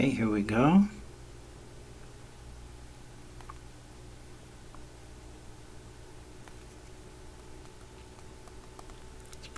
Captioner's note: writing Sounds